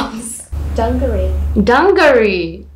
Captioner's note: computer audio